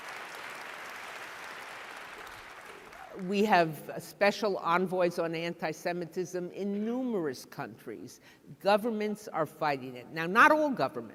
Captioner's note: applause